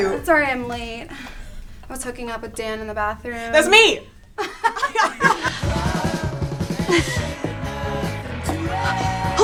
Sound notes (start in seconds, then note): 4.4 laugh; 5.6 rock music plays